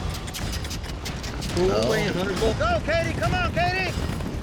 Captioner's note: fast hoofbeats